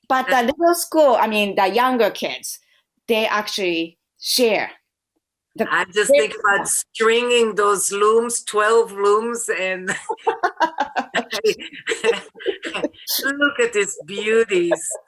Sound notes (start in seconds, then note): 9.9 laughter